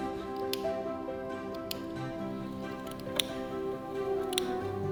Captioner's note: scissors clicking